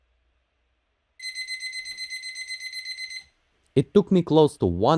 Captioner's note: alarm